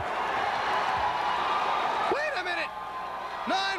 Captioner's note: crowd cheering